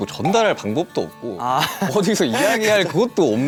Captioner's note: haha